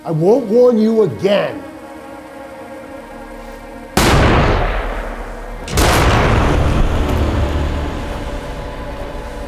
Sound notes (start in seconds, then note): 1.9 flares hissing; 1.9 tense music; 4.0 gunshot blasts; 5.7 gunshot blasts again; 6.7 tense music